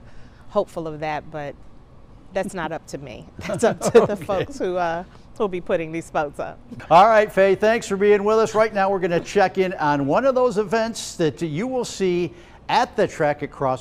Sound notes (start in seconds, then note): 6.4 laughter